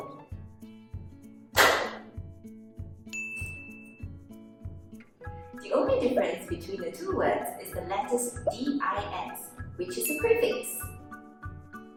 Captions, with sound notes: (clap) The only difference between the two words is the letters D-I-S, which is a prefix.